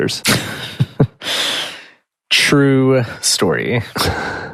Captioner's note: laughs